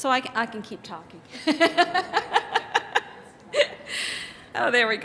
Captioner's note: laughs